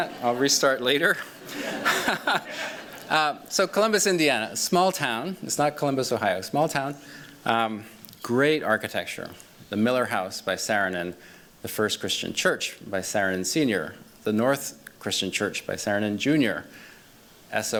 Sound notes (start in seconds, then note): 1.1 laughs